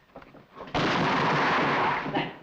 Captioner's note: gun fires